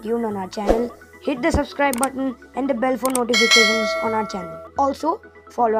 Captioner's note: bell sound in background